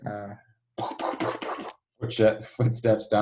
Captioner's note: makes rhythmic explosive noises